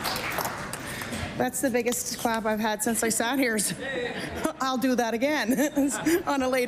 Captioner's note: applause